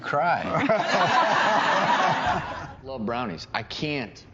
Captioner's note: all laughing